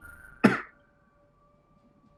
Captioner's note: coughs